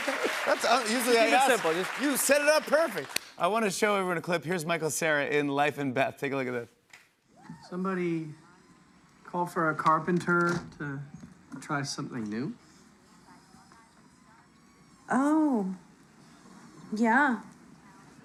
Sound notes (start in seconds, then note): 12.8 television playing